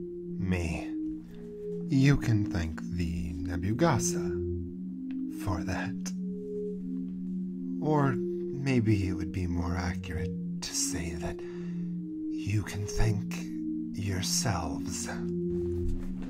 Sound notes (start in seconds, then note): none